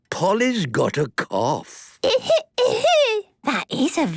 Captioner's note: coughing